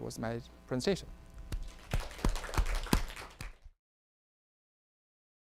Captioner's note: audience applauding